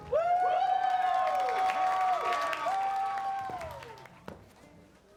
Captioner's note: cheering, applause